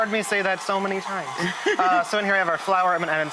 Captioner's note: laughs; laughing